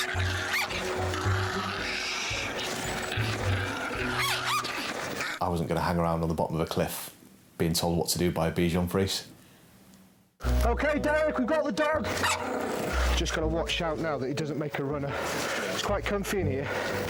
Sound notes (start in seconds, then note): 0.0 Flossie growling; 3.1 Flossie growling and barking; 12.4 Flossie barking